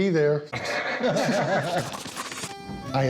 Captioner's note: laughter